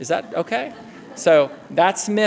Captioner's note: laughter